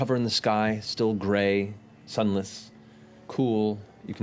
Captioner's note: none